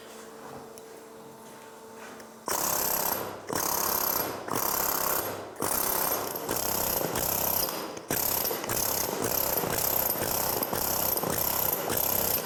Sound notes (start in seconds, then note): 2.4 noise of the jackhammer